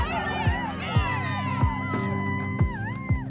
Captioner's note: cheering